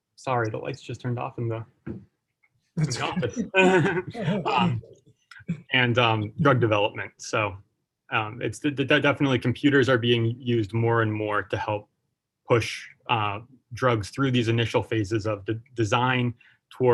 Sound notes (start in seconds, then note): 2.8 laughing